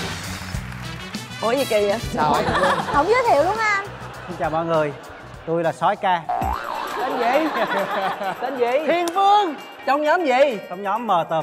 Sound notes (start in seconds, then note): 2.3 laughing